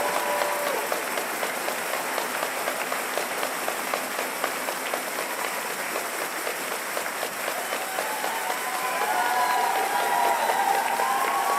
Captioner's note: cheers and applause